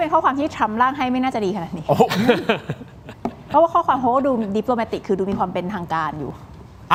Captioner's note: laughs